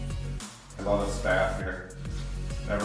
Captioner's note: pat